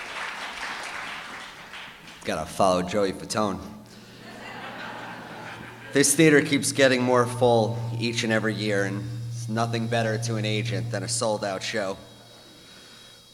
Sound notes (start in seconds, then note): 4.2 laughter